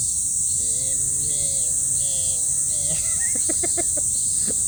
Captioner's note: mimicking cicadas